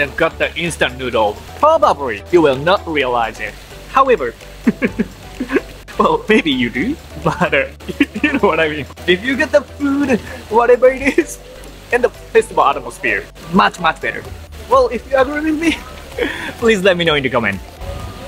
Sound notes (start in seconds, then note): 4.6 chuckles